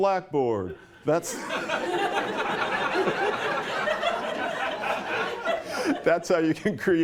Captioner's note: laughter